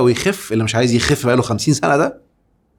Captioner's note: sarcasm!